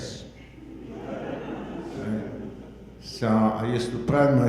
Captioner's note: audience laughing